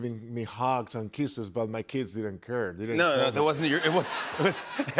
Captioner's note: laughter